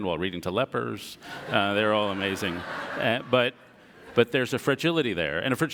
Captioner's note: audience laughter